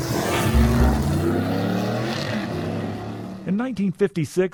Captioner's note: engines roaring